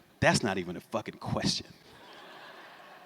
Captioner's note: laughter